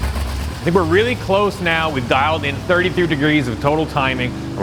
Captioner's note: engine purring